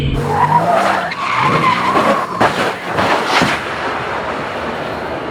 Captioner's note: tires screeching